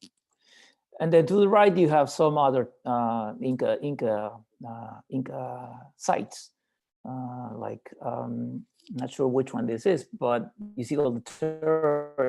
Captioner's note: mic cutting out